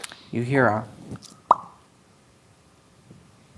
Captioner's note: pops